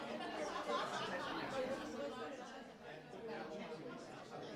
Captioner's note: group laughing